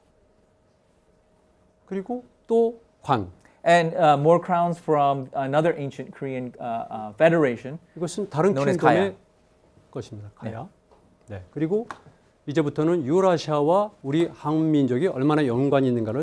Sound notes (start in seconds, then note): 2.2 speaking in Korean; 10.0 speaking in Korean